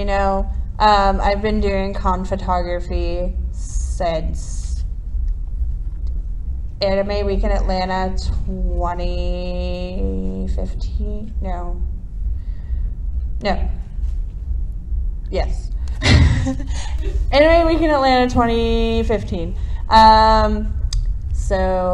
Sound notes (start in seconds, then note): 7.9 hesitates